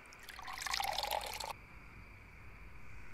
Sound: pouring alcohol

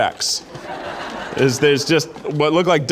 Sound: audience laughing

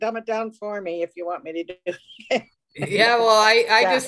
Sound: laughs

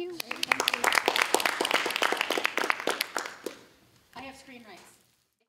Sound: applause

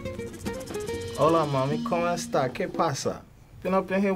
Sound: soft Latin music; speaking in Foreign language

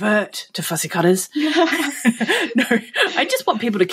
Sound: laughing

